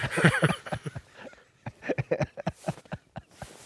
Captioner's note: both laugh